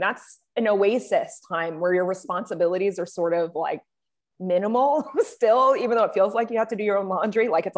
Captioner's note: chuckles